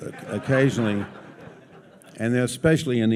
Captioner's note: audience laughs